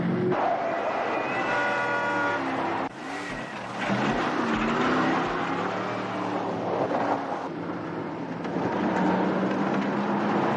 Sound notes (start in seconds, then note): 4.2 horns honking